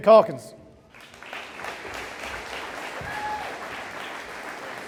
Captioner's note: audience applauding